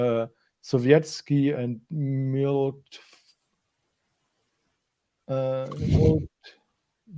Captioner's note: speaking in foreign language